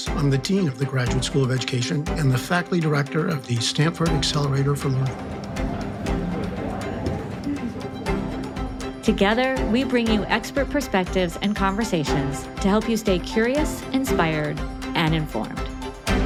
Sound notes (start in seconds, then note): 5.8 bright merry music; 5.8 people chattering